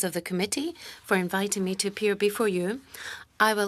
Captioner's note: speaking in French